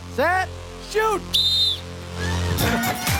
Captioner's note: whistle blows